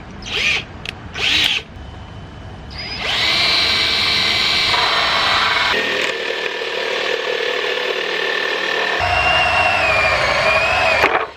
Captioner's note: sounds of power tools